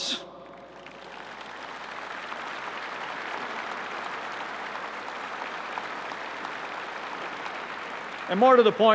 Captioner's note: applause